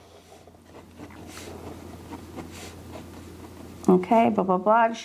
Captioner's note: pen scribbling